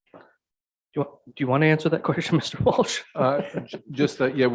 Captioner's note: chuckles